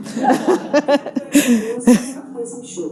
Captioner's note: audience laughing; PA system faintly speaking